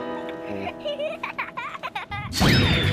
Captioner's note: giggling